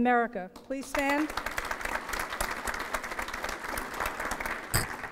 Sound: applause

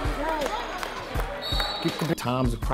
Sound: overlapping chattering; whistle tweets

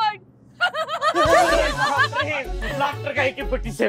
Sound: laughing hysterically

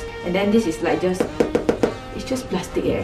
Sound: knocking against plastic material

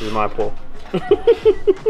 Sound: laughing

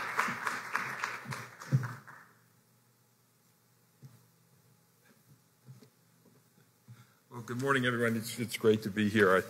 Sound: applause

